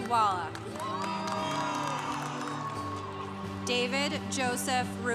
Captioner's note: congregation cheering